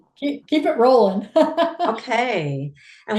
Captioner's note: laughs